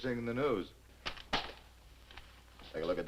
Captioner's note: paper thwacking